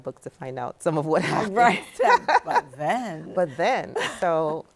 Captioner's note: laughing